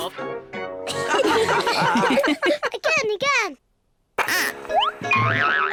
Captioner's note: all giggle